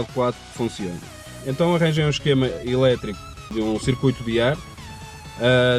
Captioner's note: blower